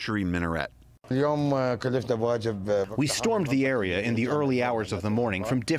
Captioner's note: through translator